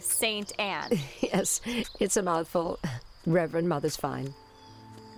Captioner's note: chuckle